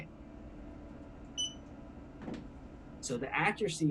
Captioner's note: beep